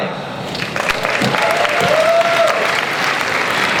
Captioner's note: applause